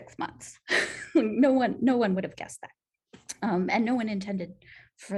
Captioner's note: laughter